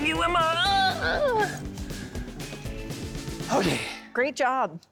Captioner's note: moans